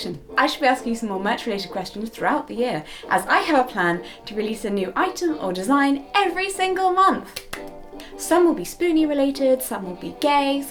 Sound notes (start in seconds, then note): 5.8 excitedly